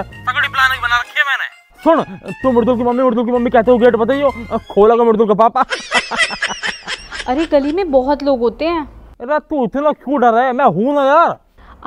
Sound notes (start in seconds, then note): 5.6 laughing